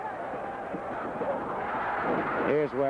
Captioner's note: crowd cheering